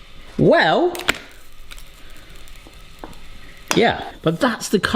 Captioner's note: samosa slaps on machine